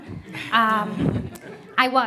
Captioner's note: laughing